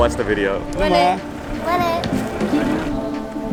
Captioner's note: foreign language